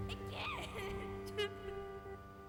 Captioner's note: crying